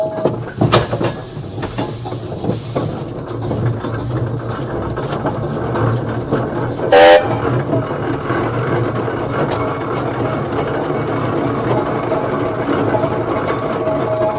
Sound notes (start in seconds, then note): 6.9 steam whistle